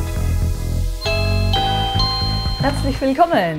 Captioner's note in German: Türklingel